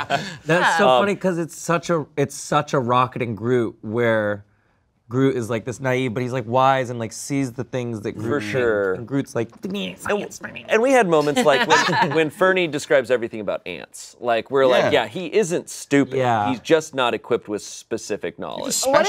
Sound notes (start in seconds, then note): 8.2 grumbles